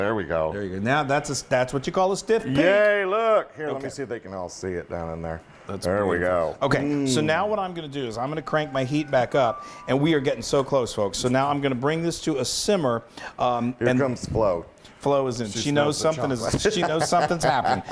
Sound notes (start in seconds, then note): 16.6 laugh